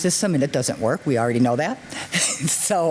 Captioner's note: laughs